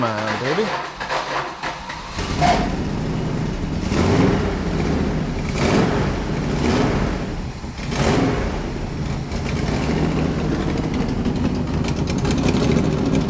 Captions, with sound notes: Come on baby. (ignition stutters) (engine purrs)